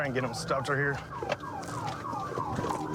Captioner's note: sirens blaring